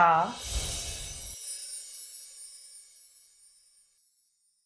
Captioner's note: chimes tinkling